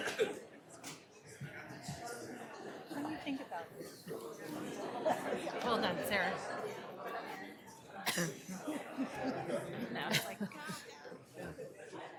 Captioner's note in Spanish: risas